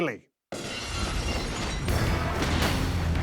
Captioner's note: glass shattering